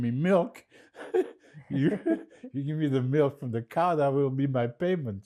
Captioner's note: laughing